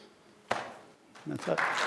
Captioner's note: crowd claps